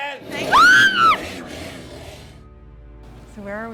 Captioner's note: screams